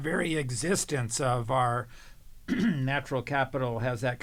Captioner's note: cough